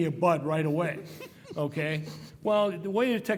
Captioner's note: laugh